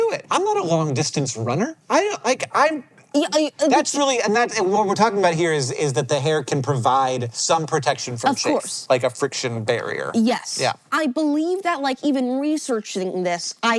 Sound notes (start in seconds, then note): 2.0 BOTH stuttering